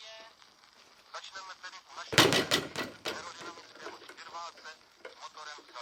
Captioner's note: punching bag rattles